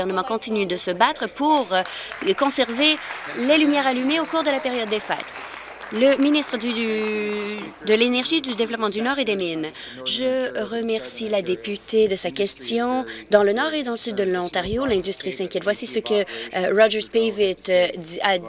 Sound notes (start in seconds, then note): 8.1 applause